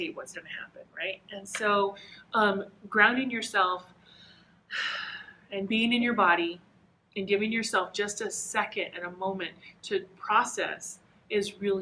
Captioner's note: breathes